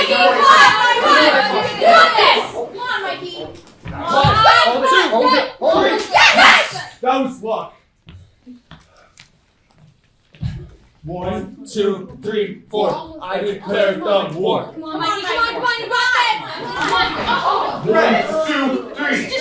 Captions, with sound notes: (crowd clamors) C'mon Mikey! You got this! That was luck! One, two, three, four. I declare a Thumb War. (crowd clamors) C'mon, c'mon, you got this! One, two, three! (crowd)